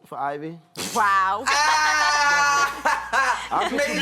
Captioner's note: laughing